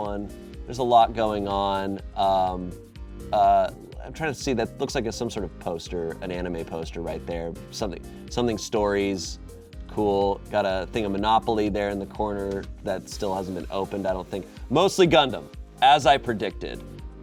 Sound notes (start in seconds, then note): none